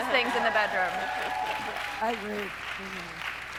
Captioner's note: audience cheering